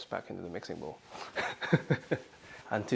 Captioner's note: laughs